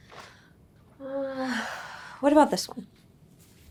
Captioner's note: sighs